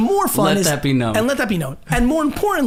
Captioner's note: laughs